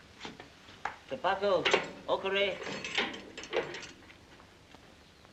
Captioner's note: speaking in Japanese